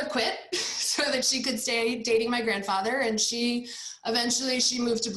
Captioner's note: chuckles